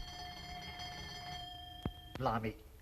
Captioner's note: doorbell